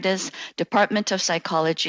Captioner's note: speaking French